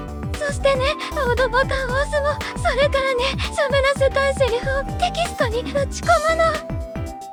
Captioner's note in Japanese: 泣き声